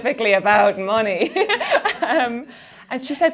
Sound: laughing

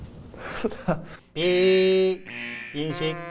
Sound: beep

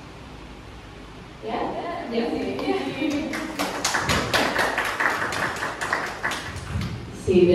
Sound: claps

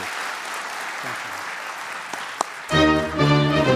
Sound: audience applauding; upbeat instrumental music

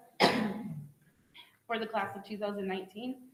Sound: clears throat

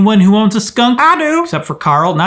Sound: voiceover

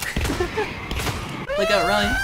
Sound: laughs

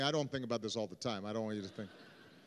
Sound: laughter

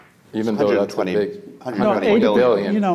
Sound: faintly speaking

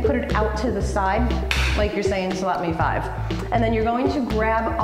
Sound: clap

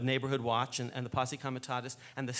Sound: speaks foreign language

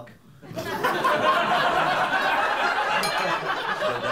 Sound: laughter

